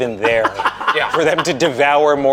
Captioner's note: laughing